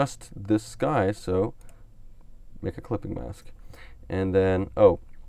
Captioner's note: clicks on mouse